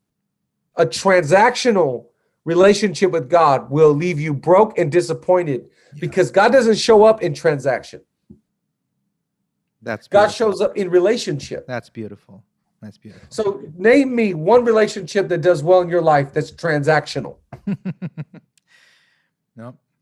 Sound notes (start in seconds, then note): 17.5 giggles